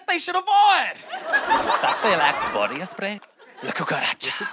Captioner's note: speaks spanish